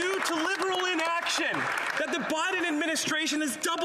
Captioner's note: applause